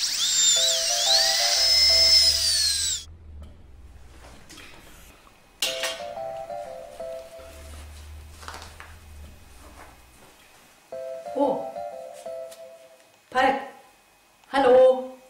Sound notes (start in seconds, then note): 0.0 dental Drill; 0.6 phone rings; 6.0 phone rings; 10.9 phone rings